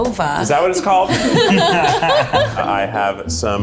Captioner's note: laughter